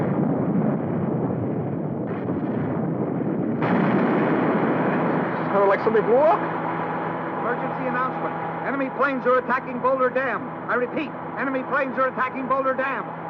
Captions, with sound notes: - What's that? - Kinda like something blew up. - [Radio Announcer] Emergency announcement. Enemy planes are attacking Boulder Dam. I repeat, enemy planes are attacking Boulder Dam.